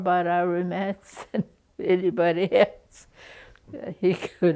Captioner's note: laughs